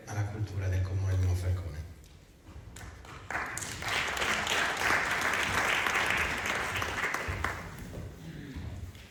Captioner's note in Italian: Applauso